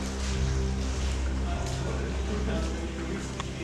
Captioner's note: indistinct chatter